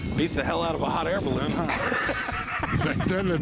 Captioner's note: laughter